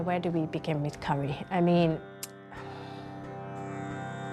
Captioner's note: exhales